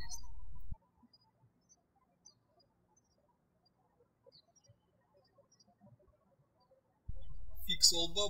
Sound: birds chirping

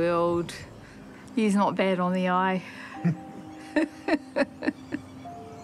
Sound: chuckles

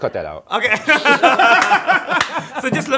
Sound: laughter

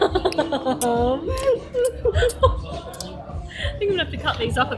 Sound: laughing

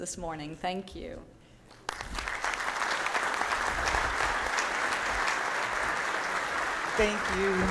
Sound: applause

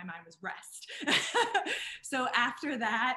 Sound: laughing

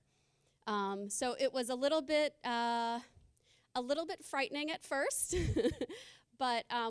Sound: laughing

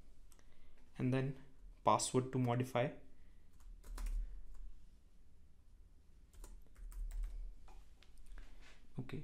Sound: typing

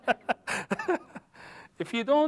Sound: laugher

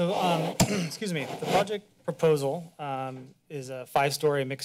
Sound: clears throat

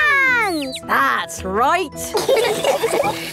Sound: all laughing

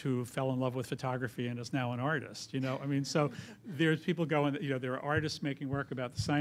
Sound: laughter

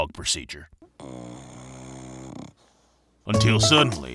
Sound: Drax snoring

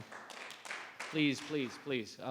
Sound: audience clapping

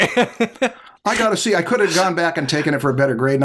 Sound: laughter

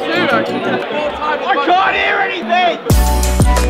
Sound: shouting

